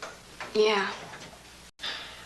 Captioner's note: sighs